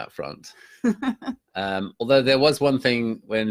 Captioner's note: laughing